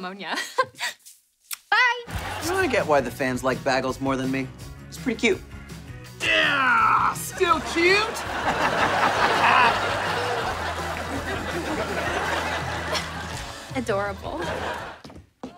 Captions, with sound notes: [chuckles] Bye. I get why the fans like Bagles more than me. He's pretty cute. [grunting] Still cute? [laughing] Adorable.